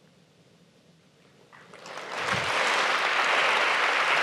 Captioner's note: applause